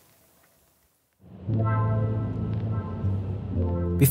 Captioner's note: pensive sounds